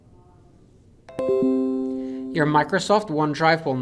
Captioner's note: computer dings